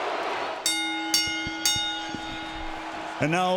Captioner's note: bell dings